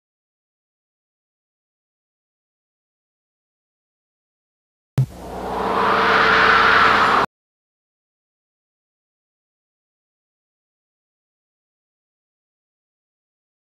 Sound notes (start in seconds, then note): 5.0 analog synthesizer whoosh sounds; 7.5 silence